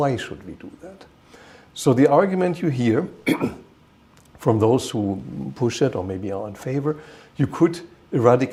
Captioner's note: clears throat